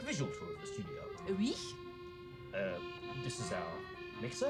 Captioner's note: Yvette speaks French